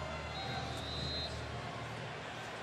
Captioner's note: whistle